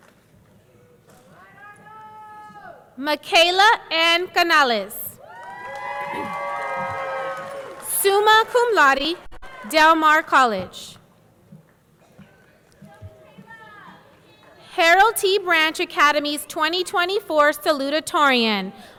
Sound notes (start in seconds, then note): 5.2 audience cheering; 5.2 audience clapping